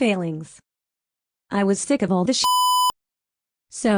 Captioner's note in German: Piep